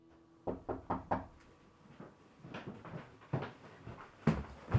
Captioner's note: knocking on door